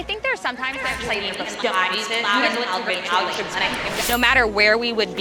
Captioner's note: speech echoes and overlaps discordantly